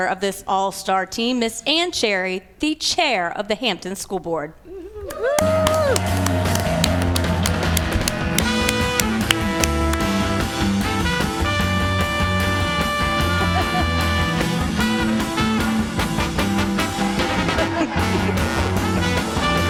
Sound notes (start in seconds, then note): 5.1 applause